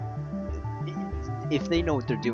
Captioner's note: background rant: anger sounds